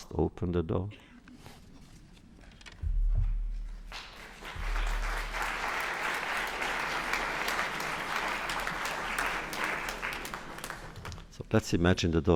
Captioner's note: applause